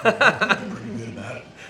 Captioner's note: laughing